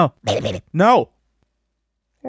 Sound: in a *whatever that was* voice; the silence of lord's wrath

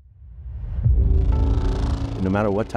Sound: creaking sound

